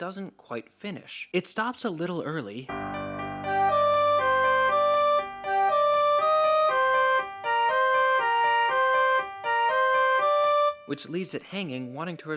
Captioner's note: bang